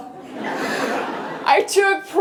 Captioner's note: laughter